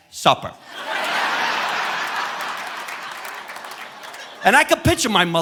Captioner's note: audience laughing